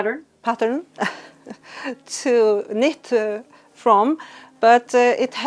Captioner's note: chuckles